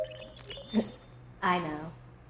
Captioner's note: computer whirs